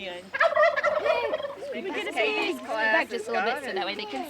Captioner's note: turkey gobbling